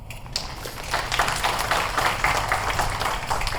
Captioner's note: applause